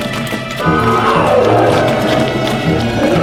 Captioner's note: all growling